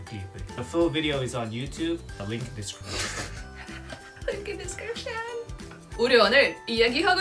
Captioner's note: laughs